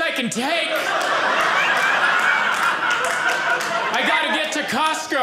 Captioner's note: audience laughing